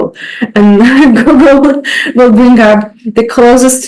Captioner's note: laughing